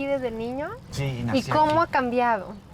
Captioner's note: Pati speaking Spanish; speaking Spanish